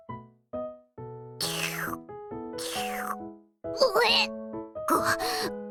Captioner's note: slurp; sputter